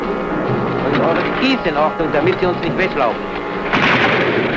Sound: German spoken audio

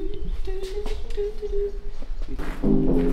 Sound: humming

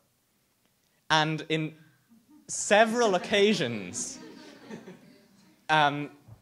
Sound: audience laughs

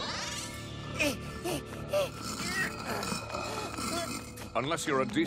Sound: grunting and panting

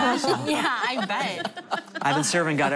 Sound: laughter

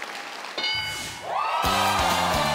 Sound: audience cheering; audience clapping; electronic dinging

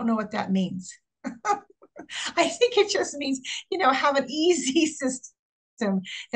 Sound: chuckles

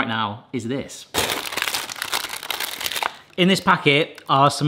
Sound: packet rustling

